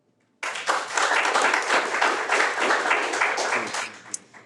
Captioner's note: audience applauds